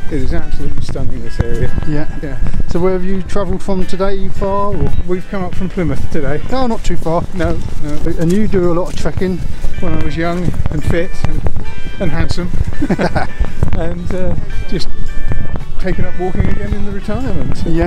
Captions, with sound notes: ..it is absolutely stunning this area. - So, where have you traveled from today? Are you far? - We've come up from Plymouth, today. - Ah, not too far. - No, no. - And you do a lot of trekking? - When I was young, and fit... ..and handsome. (Laughs) .. and ur, just taking up walking again in the retirement